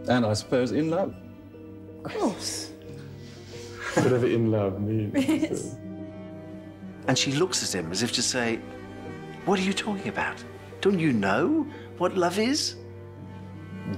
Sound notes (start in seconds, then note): 2.6 softly chuckles; 5.1 chuckles